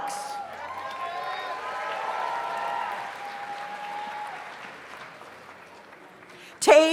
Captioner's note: audience cheers; audience applauds